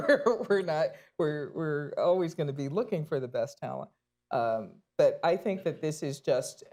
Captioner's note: laughs